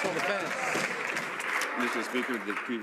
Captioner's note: some Applause